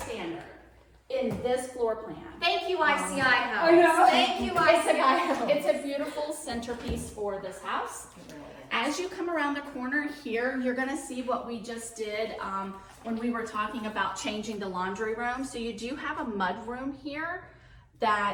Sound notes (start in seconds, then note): 5.0 laughing